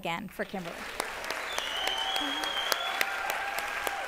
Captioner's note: applause